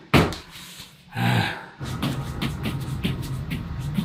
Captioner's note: grunts